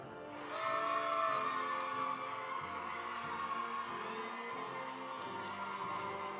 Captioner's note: audience cheering; audience applauding